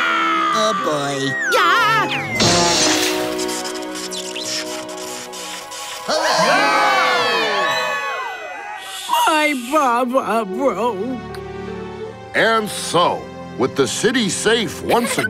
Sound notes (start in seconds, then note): 6.1 cheering